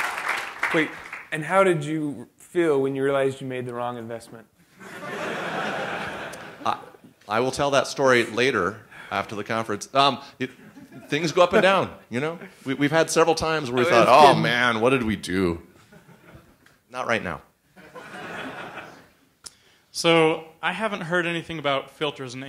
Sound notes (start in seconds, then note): 4.8 laughter